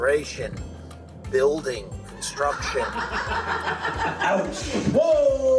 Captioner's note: amused laughter